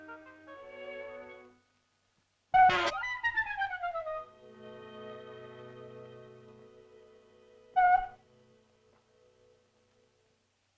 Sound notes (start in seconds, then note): 0.0 whimsical music; 2.6 shell toots and sputters; 2.9 whimsical music; 7.7 shell toots